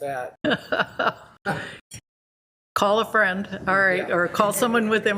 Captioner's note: laughs